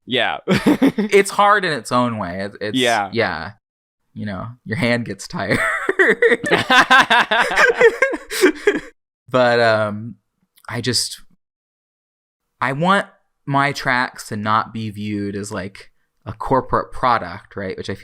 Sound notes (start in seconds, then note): 0.5 laughs; 8.1 both laugh